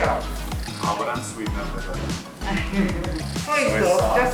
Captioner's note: laughter